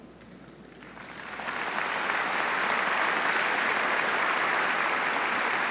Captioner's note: audience clapping